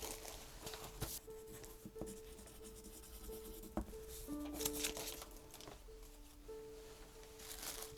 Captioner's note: pencil scratches